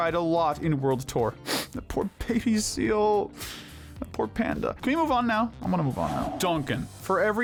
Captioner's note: sniff